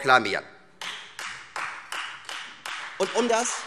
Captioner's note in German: Beifall Freie Demokraten